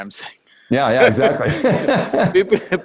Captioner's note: both laugh